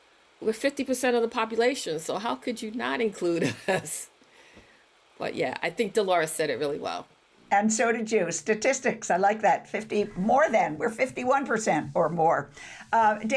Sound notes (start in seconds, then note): 3.4 chuckles